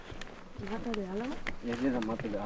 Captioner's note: in Spanish